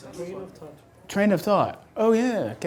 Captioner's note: voiceover